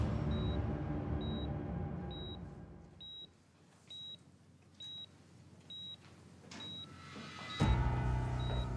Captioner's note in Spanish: sonido de telemetría; ruido al cerrar la puerta